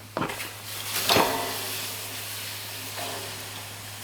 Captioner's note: sizzling